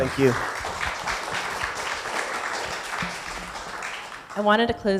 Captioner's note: audience applauding